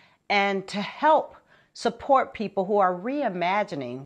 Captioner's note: none